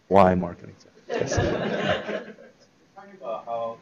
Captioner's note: laughter